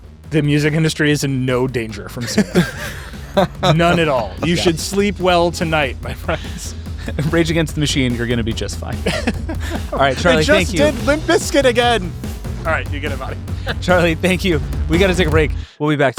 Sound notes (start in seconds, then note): 8.7 laughing